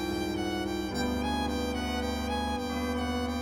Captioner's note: none